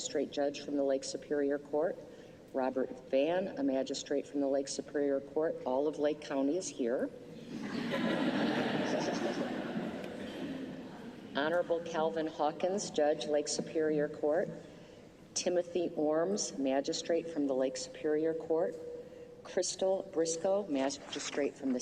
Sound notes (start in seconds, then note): 7.4 laughter